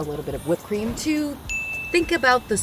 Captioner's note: bell rings